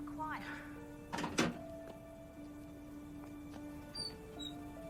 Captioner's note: phone slams in cradle; phone booth door creaks